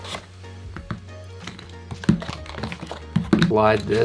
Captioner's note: calm electronic music; shuffling